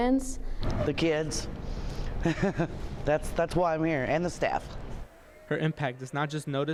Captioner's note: laughs